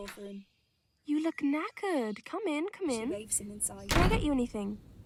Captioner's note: door closing